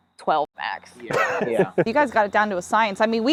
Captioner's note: laughs